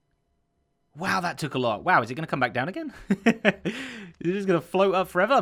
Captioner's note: chuckles